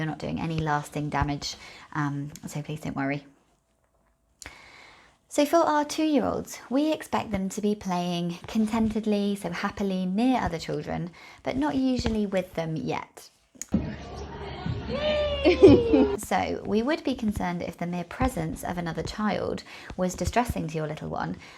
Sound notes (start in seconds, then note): 13.7 light cheering